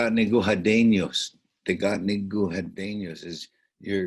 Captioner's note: speaking in Onondagan